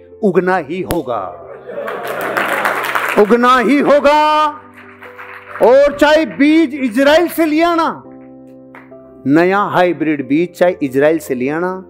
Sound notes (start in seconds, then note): 1.7 applauses